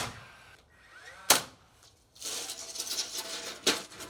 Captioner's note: nail gun popping